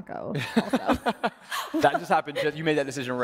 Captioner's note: laughing